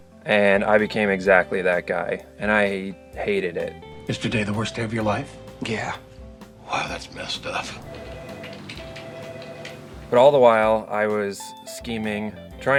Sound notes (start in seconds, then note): 7.7 phone ringing